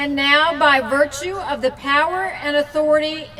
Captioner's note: none